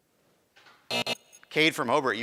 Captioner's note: buzzing